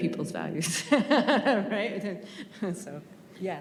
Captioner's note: laughs